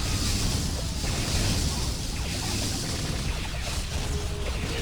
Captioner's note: explosion; dramatic music